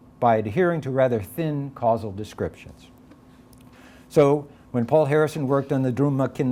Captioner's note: none